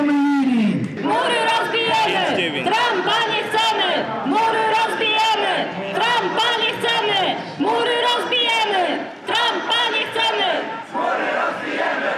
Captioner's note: chanting